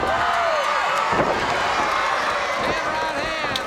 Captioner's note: audience cheers